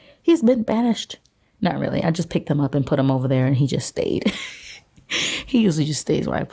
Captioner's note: laughs